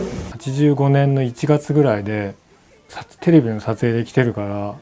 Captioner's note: speaking in foreign language